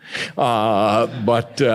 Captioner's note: audience laughs